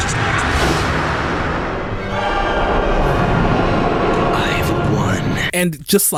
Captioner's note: screams